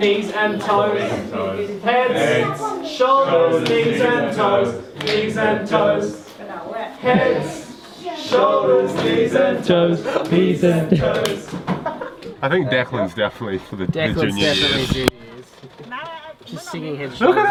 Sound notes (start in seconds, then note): 2.1 all In unison; 11.7 laughs